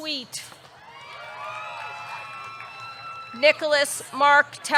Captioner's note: audience cheering; audience clapping